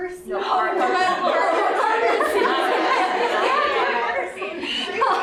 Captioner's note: laughter